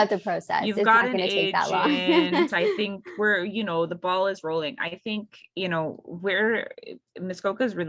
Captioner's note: laughs